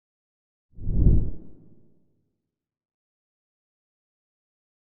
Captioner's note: logo whooshes